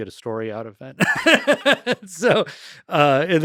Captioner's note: laughing